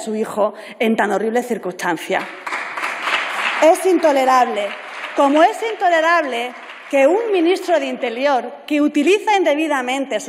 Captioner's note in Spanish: Aplausos